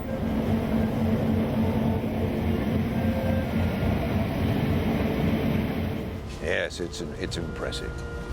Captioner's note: sound of steam hitting Rotary